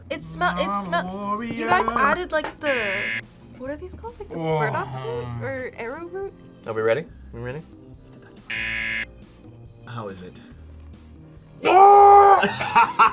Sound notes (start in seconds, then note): 8.5 buzzer; 12.2 laughs